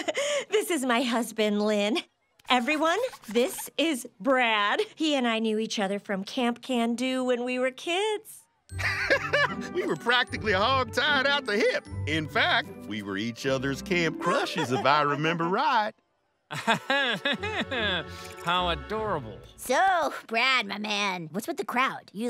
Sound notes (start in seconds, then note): 8.8 laughs; 16.5 chuckles